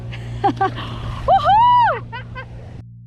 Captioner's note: laughing